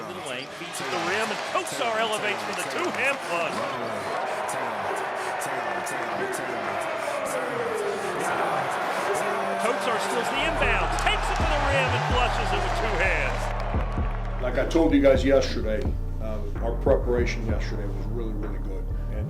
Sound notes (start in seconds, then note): 4.4 crowd cheering; 4.4 upbeat rap music